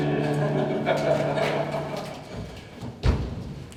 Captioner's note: ensemble laughs